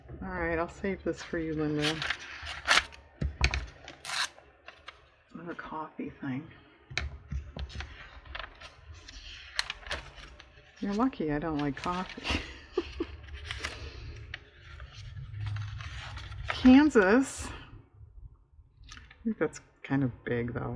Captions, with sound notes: all right i'll save this for you, Linda another coffee thing you're lucky i don't like coffee (laughs) "Kansas," i think that's kind of big though